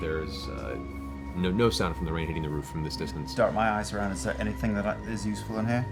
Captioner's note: none